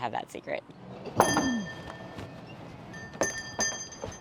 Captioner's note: bell dinging